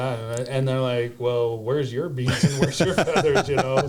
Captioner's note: laughs